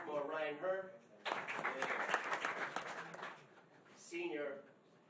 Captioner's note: applause